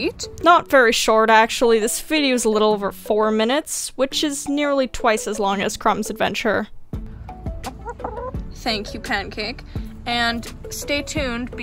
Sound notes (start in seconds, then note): 7.6 confused chicken noises